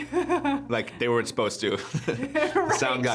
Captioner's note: laughs